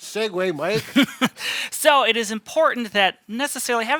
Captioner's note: laughing